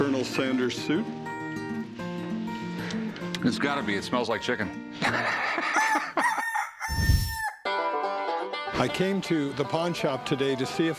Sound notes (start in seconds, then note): 5.0 laughter; 5.6 rooster crows